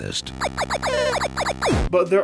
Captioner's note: retro videogame noises